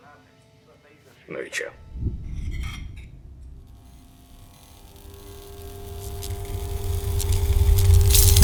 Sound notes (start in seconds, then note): 3.5 electricity buzzing